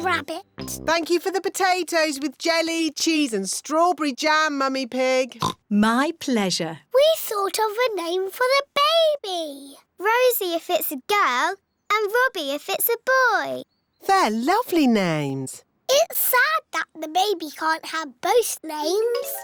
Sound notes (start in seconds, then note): 5.4 oinks